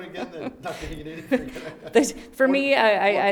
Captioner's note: laughs